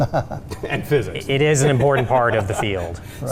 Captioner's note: laughing